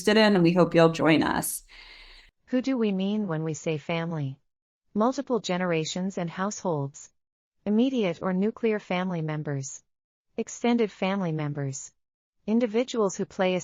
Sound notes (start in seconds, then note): 2.3 audio Description being read